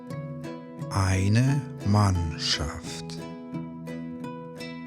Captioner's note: german